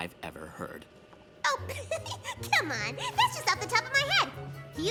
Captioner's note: giggle